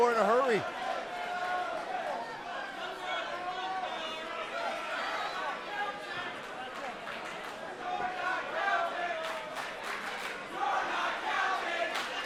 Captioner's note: crowd cheering